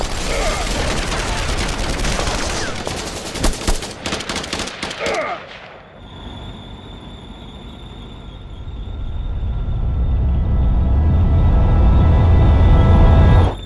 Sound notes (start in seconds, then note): 0.2 trooper groans; 5.0 trooper groans; 5.9 tank whirring; 6.0 tank rumbling